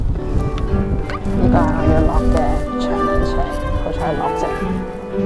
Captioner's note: steps